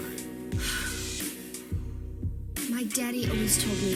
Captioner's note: sighs